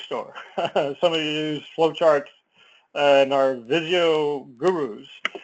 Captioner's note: laugh